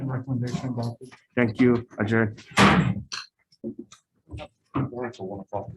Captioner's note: gavel bangs